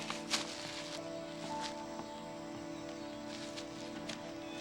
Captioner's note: leaves rustling; birds chirping